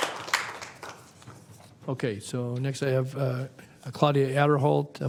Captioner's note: applause